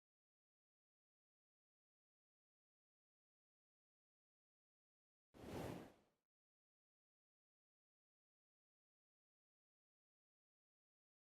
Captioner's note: no audio